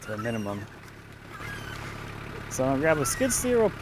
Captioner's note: machine squeaking